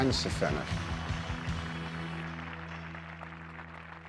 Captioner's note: applause